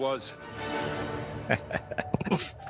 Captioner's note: laughs